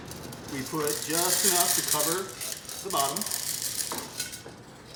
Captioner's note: beans rattle against metal